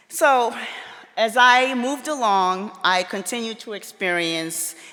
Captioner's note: none